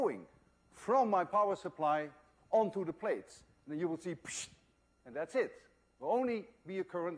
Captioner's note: pssshhht